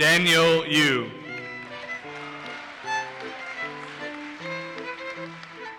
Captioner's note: audience applauses